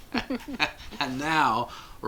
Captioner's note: both laughing